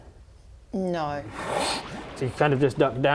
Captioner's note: whoosh